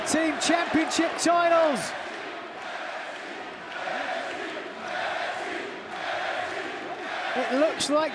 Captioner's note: crowd cheering